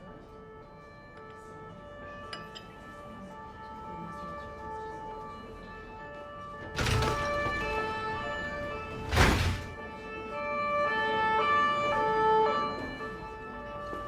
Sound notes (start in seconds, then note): 0.0 siren blaring, distant; 0.3 siren continues; 10.3 siren continues